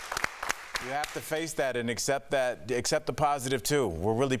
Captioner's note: applause